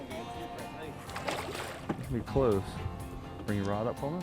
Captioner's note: water splashing